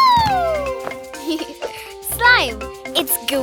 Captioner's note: giggles